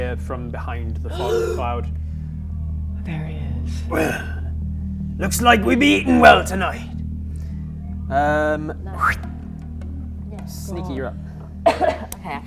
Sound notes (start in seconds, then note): 1.1 gasp; 9.0 fwip